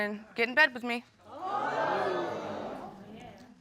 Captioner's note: audience gasps